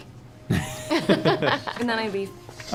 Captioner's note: laughs